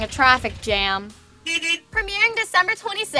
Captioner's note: honking horn